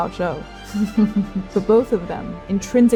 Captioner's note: chuckling